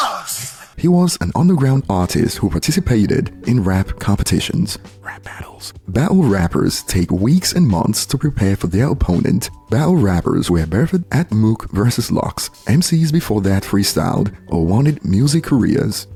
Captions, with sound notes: He was an underground artist who participated in rap competitions. [whispers] battle rappers take weeks and months to prepare for their opponent. Battle rappers were Birthed at Mook vs Lux. MCs before that freestyled or wanted music careers